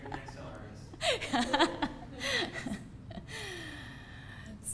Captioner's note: laughs